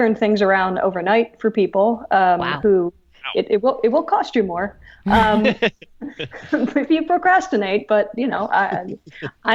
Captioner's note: hosts laugh